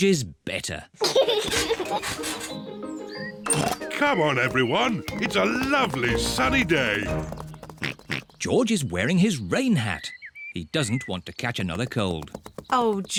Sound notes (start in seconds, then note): 1.0 giggles; 4.0 oinks